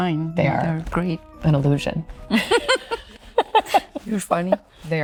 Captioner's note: laughing